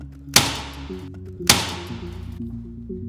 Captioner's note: sound of staple gun triggering